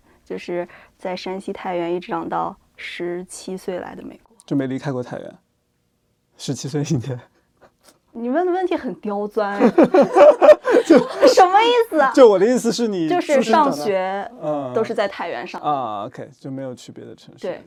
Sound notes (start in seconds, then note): 9.5 both laugh